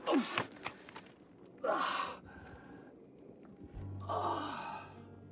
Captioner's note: moaning